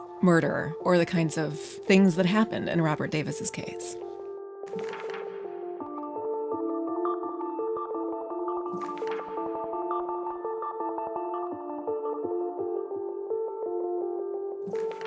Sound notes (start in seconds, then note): 4.7 mysterious electronic music; 8.9 pages flipping